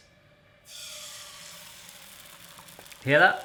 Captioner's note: sizzling